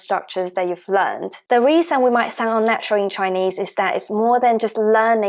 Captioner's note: Mandarin